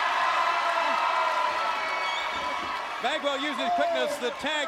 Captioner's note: crowd cheering